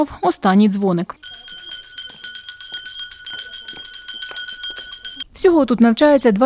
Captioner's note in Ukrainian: дзвіночок